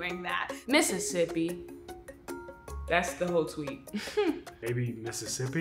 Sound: chuckles

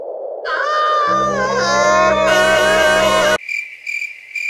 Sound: all screaming

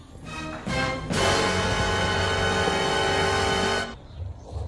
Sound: dramatic Sound Effect

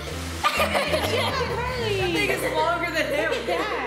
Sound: laughter

